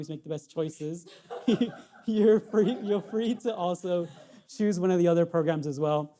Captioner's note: laughs